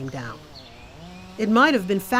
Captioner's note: chain saw buzzing